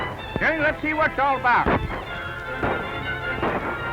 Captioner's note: gunshots